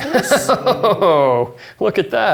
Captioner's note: laughing